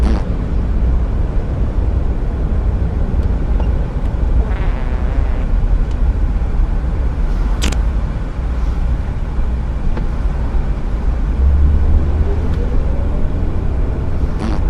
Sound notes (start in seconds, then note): 0.0 farts again; 4.4 long fart; 7.4 farts